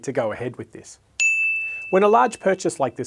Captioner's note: bell dings